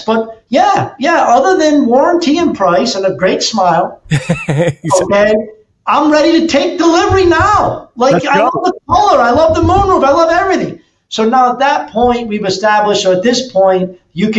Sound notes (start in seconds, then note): 4.1 laughs